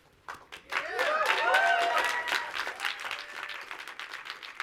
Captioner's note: audience applauds